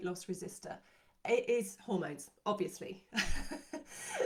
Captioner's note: chuckles